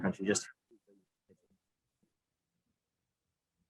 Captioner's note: silence